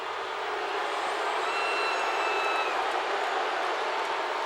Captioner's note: crowd boos